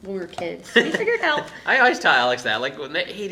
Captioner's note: laughing